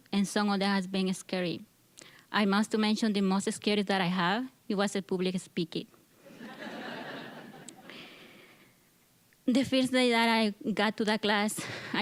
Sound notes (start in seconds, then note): 6.3 audience laughing